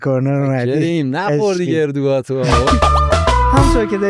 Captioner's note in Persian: خنده